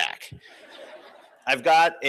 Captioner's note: laughter